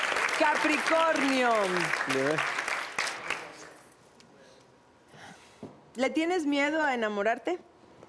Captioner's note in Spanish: Aplausos